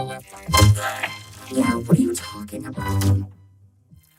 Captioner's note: gagging